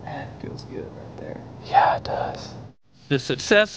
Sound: whispering

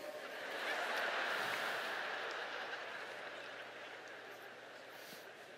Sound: laughter

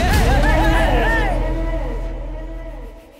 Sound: crowd cheering

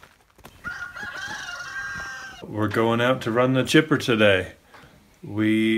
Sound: rooster crow

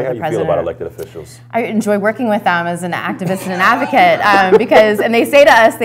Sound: laughter

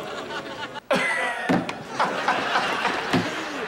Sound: laughing

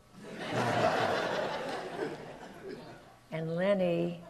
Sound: audience laughs

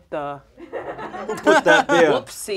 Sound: audience laughs

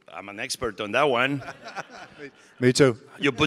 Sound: audience laughing

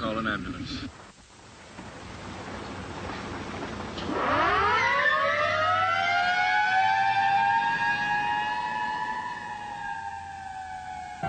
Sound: sirens

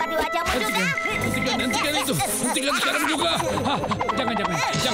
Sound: laughing

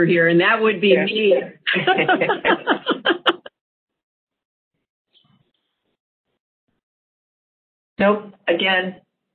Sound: laughter

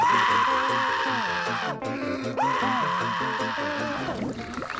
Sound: screaming

